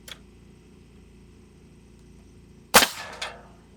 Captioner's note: nail gun shooting